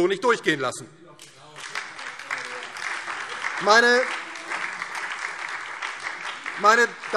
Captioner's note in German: Beifall DIE LINKE, SPD und Freie Demokraten